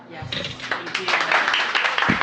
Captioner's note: applause